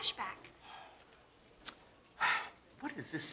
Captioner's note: sighs